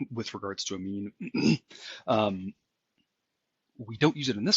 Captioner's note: cough